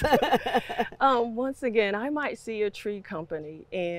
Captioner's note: laughs